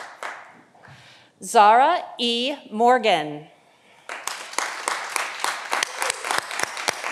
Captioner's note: audience applauding